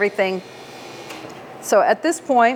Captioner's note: machine revving